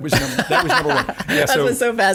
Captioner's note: laughing